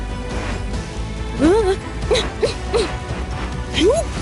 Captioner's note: grunting